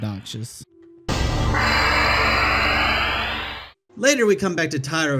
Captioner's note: obnoxious leveling up sound